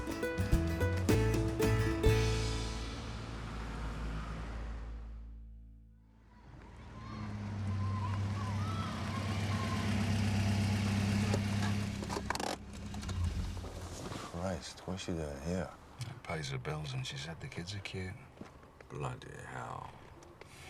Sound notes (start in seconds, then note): 0.0 upbeat music; 6.4 children chattering; 7.1 engine rumbling